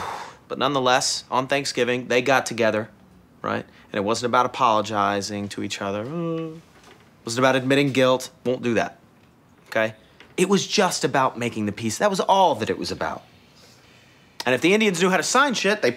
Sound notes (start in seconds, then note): 6.1 fake crying